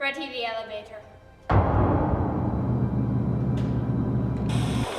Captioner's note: elevator engine